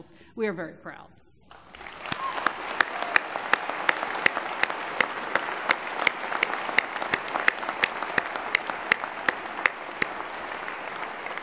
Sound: applause

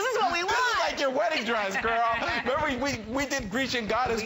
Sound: laughter

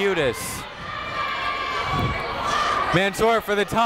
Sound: people shouting in the crowd

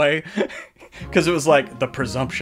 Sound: laughs

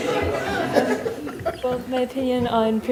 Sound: laughter

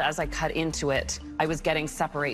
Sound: none

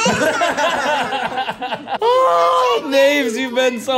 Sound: everyone laughs

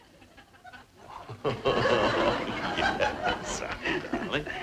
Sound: Brad chuckling

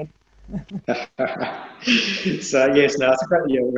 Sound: laughing

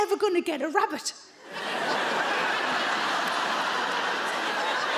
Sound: audience laughs

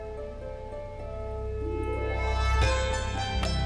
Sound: conch blowing

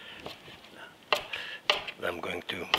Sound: knife clacking

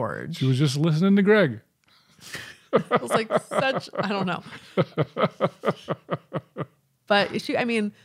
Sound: chuckling

